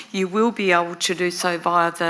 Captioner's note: none